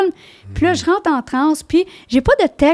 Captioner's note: in french